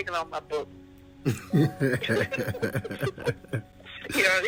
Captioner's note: both laughing